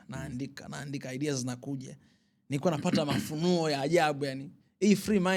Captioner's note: clearing throat